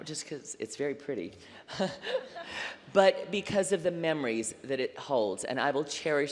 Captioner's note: laughter